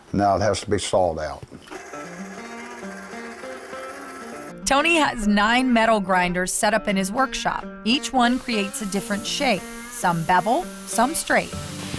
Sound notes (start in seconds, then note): 1.7 sawing